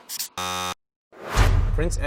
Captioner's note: warning buzzer; dramatic drum beat